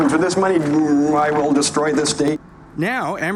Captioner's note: imitating robot voice